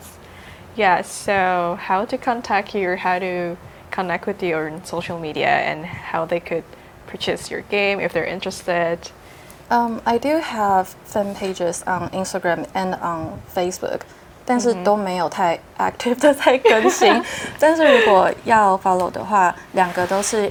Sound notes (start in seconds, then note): 16.6 chuckles